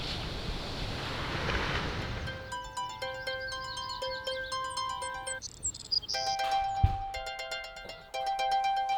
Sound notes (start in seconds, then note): 2.2 alarm clock